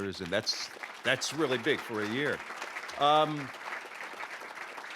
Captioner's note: applause